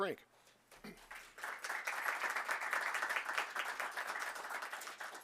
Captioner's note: audience clapping